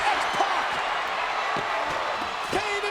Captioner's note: crowd cheering